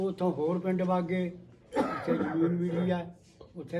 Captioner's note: background disturbance *coughing